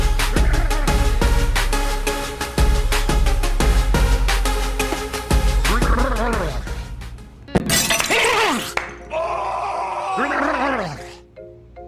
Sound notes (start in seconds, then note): 7.6 sound of a toilet shattering; 7.6 teacher rumbling; 9.1 someone screaming offscreen